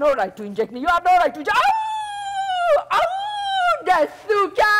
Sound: loudly howling

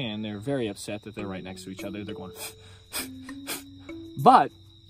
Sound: phh Phh PHH

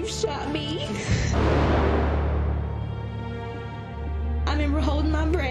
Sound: gunshot

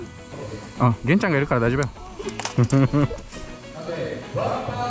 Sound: laughs

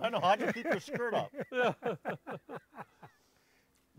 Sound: all laughing

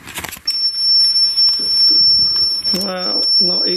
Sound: metre beeps

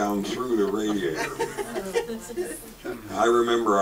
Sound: audience laughs

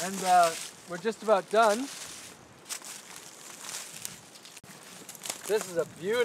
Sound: rustling sounds

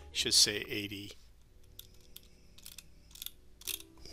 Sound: sound of scrolling

